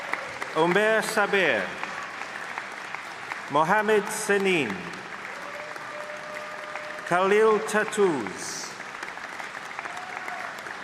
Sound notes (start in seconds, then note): 0.0 applause; 5.5 applause